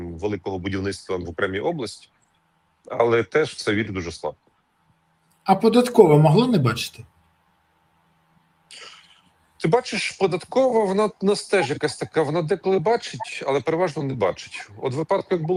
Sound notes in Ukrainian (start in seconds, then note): 8.7 сопіння